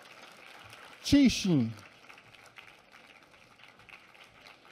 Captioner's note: applause